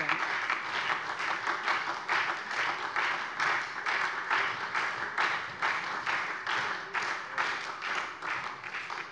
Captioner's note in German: Beifall SPD